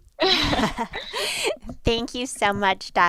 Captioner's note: both laugh